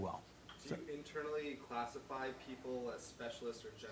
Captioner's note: voiceover